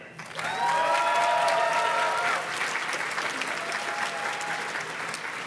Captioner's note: audience cheers and claps